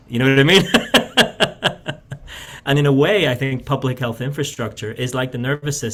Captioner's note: laughs